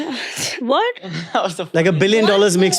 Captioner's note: chuckles; chuckles